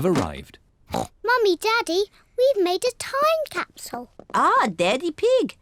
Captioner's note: oinks